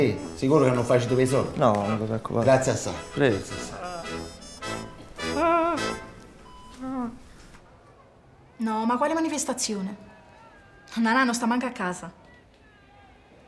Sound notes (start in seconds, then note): 4.8 patient keeps moaning